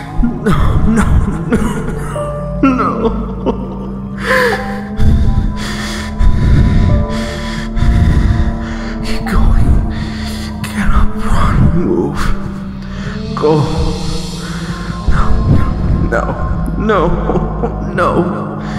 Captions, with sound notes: No, no, no, no, no.... (sobbing) (heavy breathing) Keep going.... Get up! Run! Move! Go! (heavy breathing) no, no, no... no!